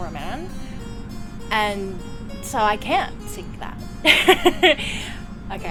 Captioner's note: laughter